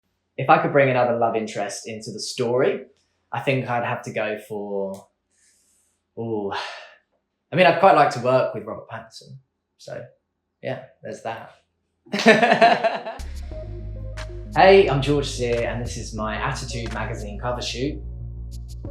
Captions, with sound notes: If I could bring another love interest into the story I think I'd have to go for... Ooh, I'd quite like to work with Robert Pattinson, so yeah. There's that. (laughs) (upbeat music) Hey, I'm George Sear, and this is my Attitude magazine cover shoot.